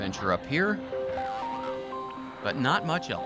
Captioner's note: radio chatter